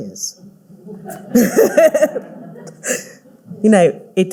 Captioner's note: all laughing